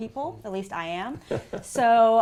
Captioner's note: laugh